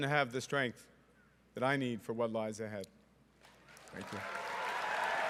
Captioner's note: cheering and Applause